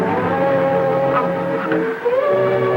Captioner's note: gasps